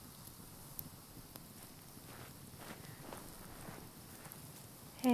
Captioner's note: footsteps pattering